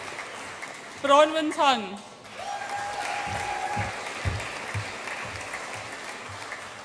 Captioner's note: audience applauds and cheers